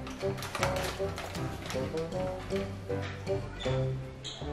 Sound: bags crinkling

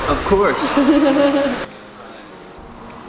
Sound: upbeat music; laughing

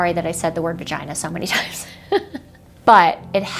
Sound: laughs

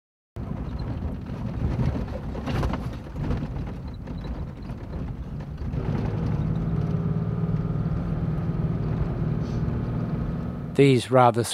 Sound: vehicle sounds

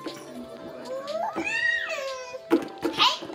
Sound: screaming

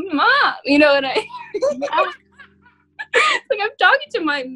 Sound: all laughing

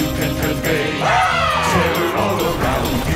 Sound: screaming

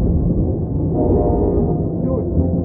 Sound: horn blaring

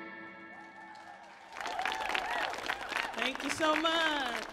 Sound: audience cheers

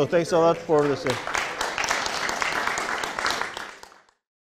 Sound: clapping

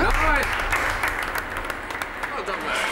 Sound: applause

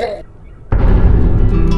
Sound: depressing music; dramatic thud

